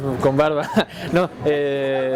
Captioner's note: laughs